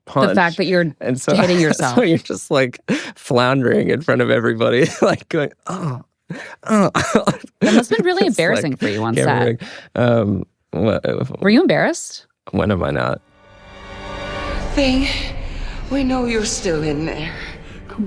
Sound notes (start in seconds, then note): 1.2 laughs; 6.3 laughs